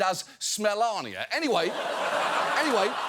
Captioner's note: audience laughs